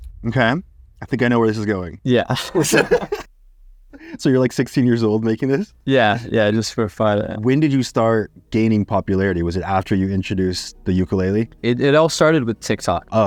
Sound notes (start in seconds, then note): 2.3 both laugh